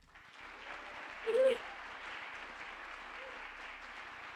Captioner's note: audience applauding